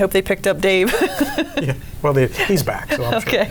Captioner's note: laughing